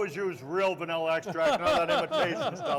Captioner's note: laughs